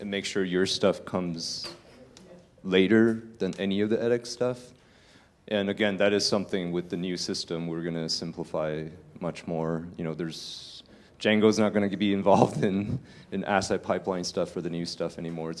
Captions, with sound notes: make sure your stuff comes later than any of the edX stuff. And again that is something with the new system we're gonna simplify much more. There's Jango's not gonna be involved [LAUGH] in the asset pipeline stuff or the new stuff anymore.